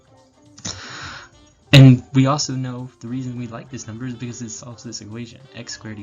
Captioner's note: big breath